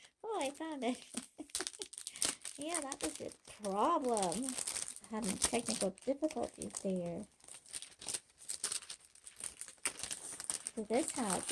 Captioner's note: giggling